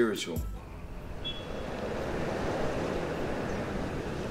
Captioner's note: traffic humming